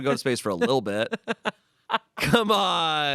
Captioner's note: Amanda laughs